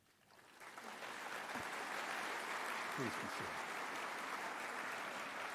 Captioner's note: audience applauding